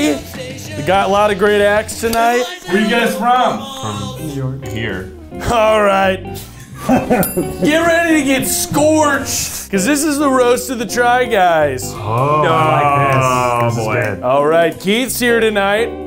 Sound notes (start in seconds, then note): 6.5 laughing; 7.0 bell rings; 12.2 fingers snapping